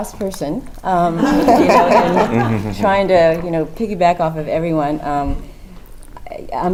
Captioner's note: laugh